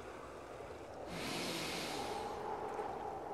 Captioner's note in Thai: เสียงสูดลมหายใจ